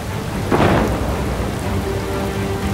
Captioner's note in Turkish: Gök gürlüyor